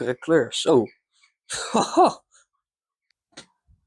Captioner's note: laughs happily